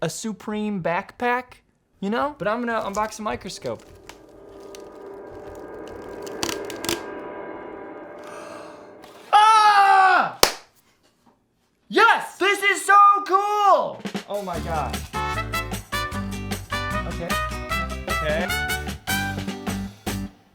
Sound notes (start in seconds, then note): 4.4 dramatic music; 9.3 shouts; 10.4 claps; 14.5 upbeat music